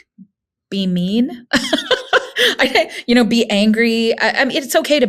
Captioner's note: laughing